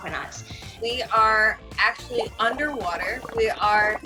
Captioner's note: bubbles twinkle